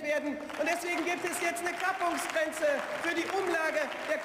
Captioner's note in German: Beifall